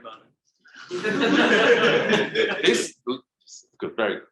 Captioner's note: audience laughing